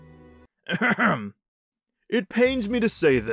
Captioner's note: clears throat